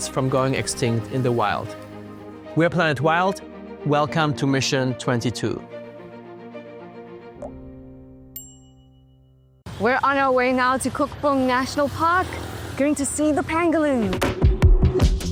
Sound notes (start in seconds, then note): 7.4 water drop plunks; 8.3 bell chimes